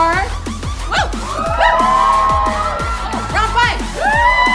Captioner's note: cheering